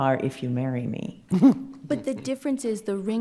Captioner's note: chuckles